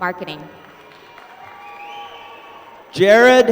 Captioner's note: applause